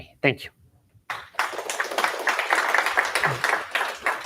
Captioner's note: applause